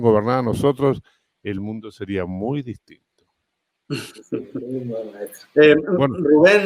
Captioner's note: Risas asintiendo